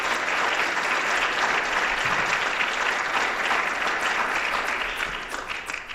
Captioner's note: applause